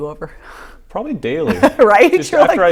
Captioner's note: laughing